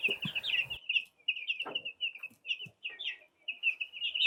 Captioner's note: birds chirping